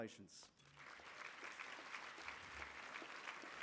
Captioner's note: applause